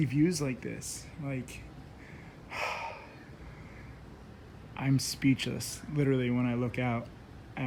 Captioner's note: sigh